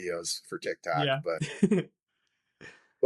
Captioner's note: laughing